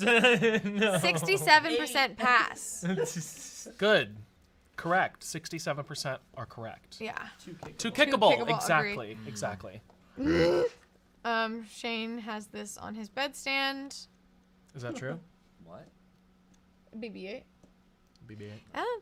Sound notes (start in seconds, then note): 0.2 laughs; 10.2 makes belching sound